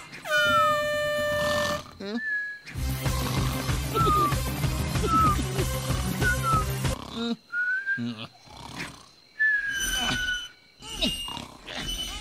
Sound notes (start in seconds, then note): 0.2 air Horn Sound; 9.4 silly Noises